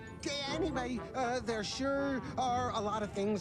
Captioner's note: laughs